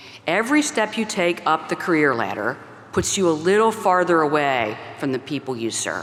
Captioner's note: none